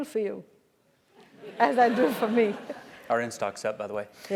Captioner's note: laugh